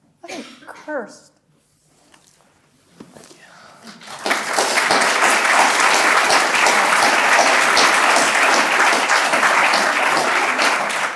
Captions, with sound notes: I am cursed." Thank you. (audience applauding)